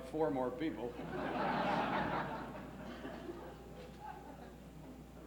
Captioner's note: laughs